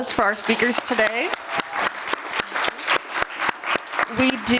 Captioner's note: applause